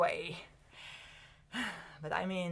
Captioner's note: sigh